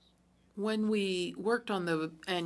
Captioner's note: speaking french